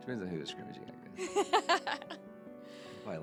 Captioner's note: laughing